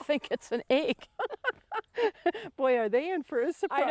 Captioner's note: laughing